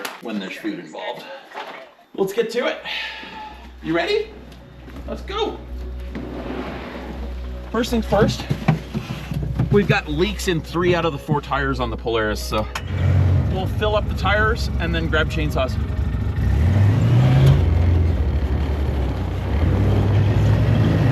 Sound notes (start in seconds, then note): 5.7 gentle music; 6.0 door sliding; 15.9 engine growling; 15.9 gentle music